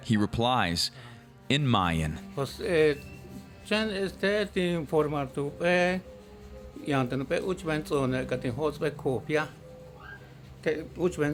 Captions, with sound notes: He replies in Mayan. - (speaking Mayan)